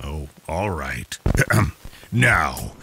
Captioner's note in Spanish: procede a toser